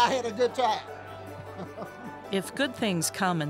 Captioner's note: laughs